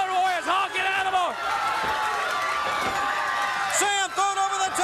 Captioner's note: crowd cheering